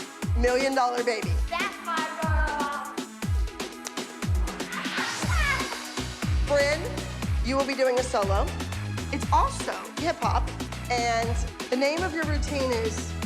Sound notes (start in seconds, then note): 2.8 upbeat music; 4.6 excited scream